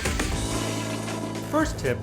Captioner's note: flush